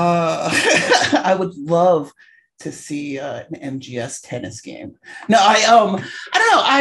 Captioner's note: laughing